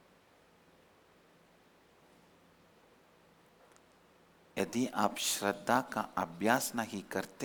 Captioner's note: hindi